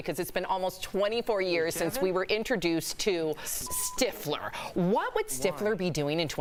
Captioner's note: laughter